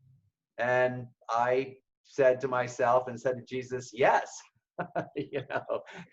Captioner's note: laughs